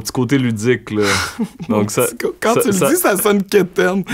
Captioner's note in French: éclat de rire